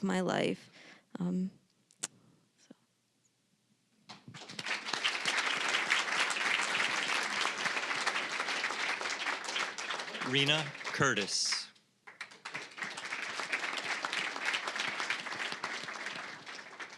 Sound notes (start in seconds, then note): 4.1 applause